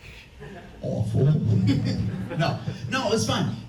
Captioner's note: laughs